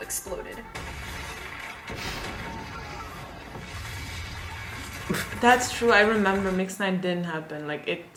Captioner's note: explosion